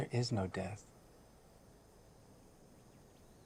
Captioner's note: none